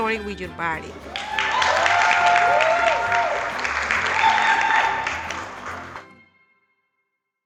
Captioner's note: clapping and Cheering